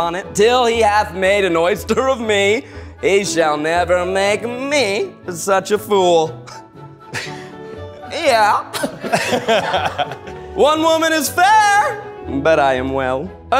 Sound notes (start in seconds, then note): 8.6 people laughing